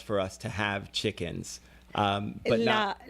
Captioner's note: Hablando ingl\s